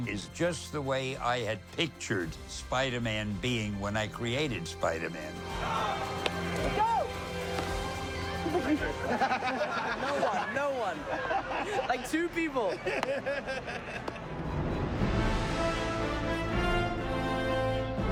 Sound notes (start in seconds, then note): 8.3 indistinct chatter, then laughter